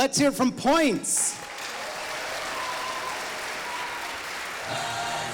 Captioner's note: audience applauding